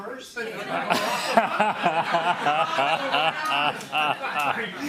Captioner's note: laughter